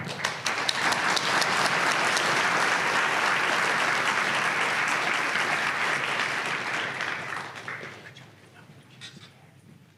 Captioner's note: applause